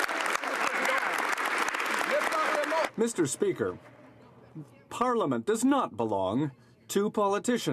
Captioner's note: some Applause